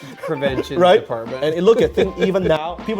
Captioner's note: laughs